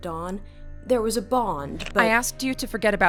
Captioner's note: SFX: mandible click, Kiri lifts hand from the door